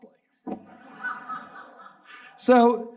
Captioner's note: audience laughing